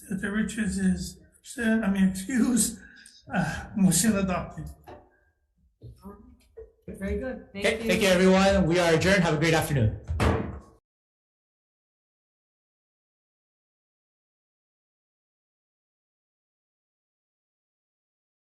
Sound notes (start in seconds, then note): 2.3 chuckles; 10.0 gavel bangs